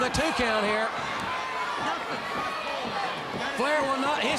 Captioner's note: crowd cheering